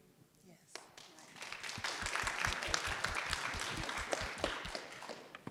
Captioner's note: audience claps